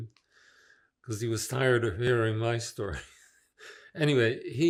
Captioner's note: laughing